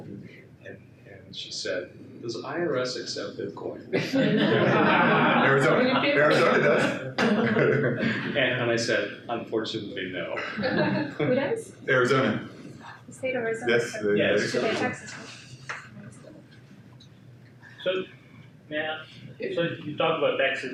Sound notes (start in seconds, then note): 3.9 audience laughs